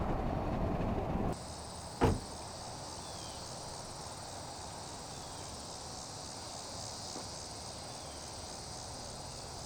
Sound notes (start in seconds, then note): 1.3 crickets chirping